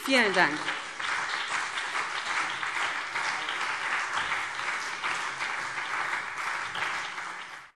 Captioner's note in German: Beifall BÜNDNIS 90/DIE GRÜNEN und CDU